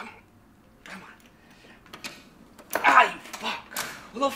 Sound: door opens in background

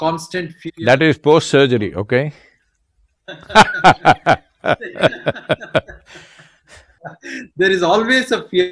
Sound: both laugh

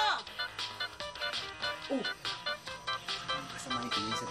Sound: disco music playing; whispering

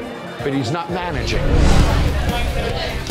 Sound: loud chatter

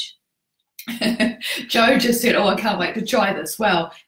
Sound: laughs

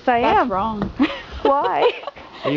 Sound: giggles

